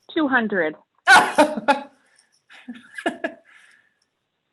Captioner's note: laughing